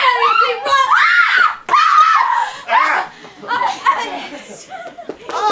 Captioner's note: Cecily screams